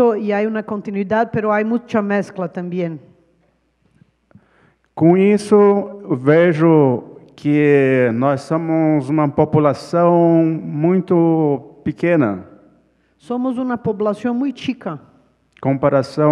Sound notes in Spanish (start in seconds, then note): 8.2 ponente habla en portugués